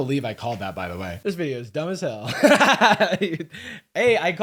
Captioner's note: laughs